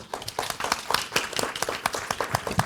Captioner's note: applause